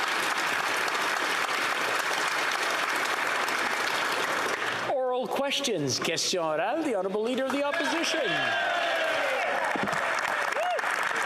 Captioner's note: applause